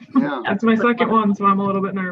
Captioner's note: laughs